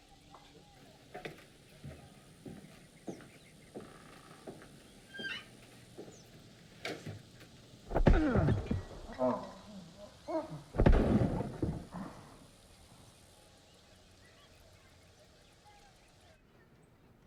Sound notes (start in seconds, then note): 7.9 loud thud; 7.9 groaning; 10.8 loud crash